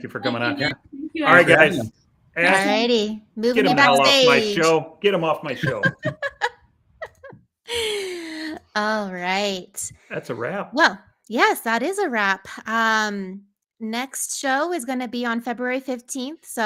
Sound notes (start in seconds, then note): 5.5 laughs